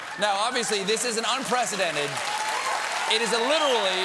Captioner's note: applause